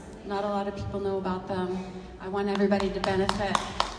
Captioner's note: audience applauds